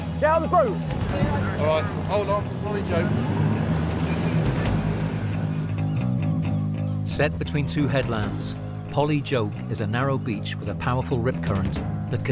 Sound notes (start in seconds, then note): 3.2 motor whirring; 3.3 tense music continues